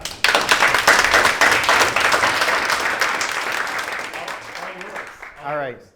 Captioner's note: audience applauding